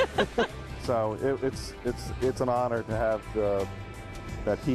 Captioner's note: laughter